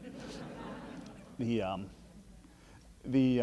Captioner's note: laughing